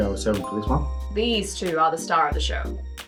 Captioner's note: dings